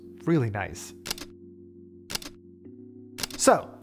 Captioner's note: camera shutter clicks